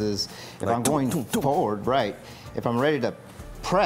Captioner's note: imitating pounding